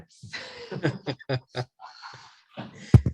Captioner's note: chuckling